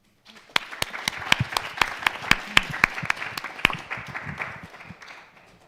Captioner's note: audience and panel applauding